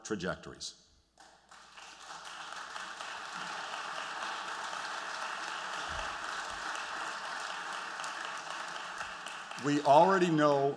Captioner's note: applause